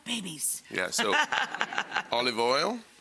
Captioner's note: and audience laughs